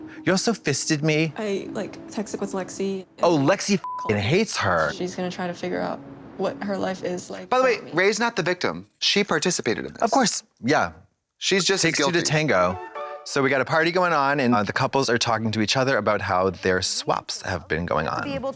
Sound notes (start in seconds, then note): 3.8 beep